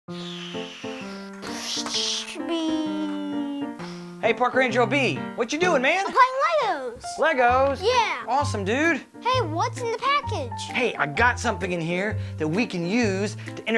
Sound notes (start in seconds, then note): 0.1 upbeat piano music; 1.7 airplane whooshing noise